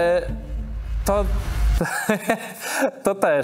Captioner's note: laughs